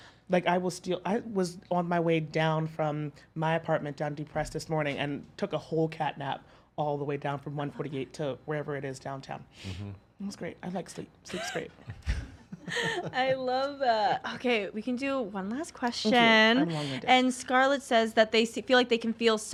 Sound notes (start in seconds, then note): 11.4 laughs